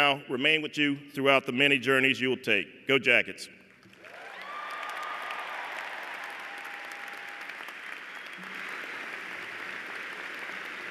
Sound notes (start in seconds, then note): 3.9 cheers and applause